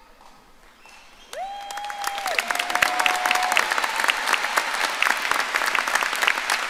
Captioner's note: audience applauding and cheering